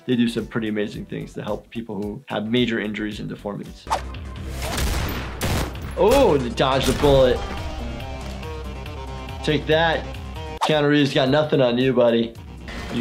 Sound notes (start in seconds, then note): 3.9 active music; 4.5 gun shots; 7.8 active music